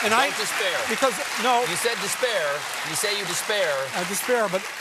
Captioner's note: applause